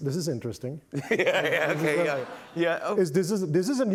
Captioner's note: laughing